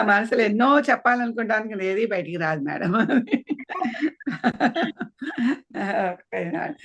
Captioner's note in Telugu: నవ్వు